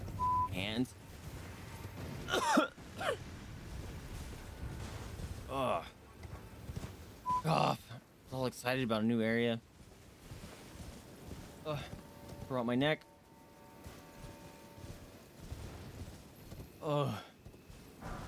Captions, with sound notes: freaking hands! *more coughing* Ugh. Frick off; I was all excited about a new area. Uh, threw out my neck. *groans*